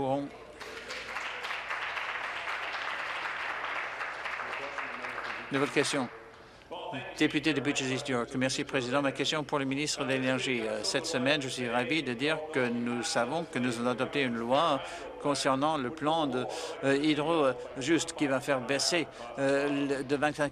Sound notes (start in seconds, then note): 4.0 applause